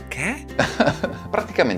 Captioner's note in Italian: risata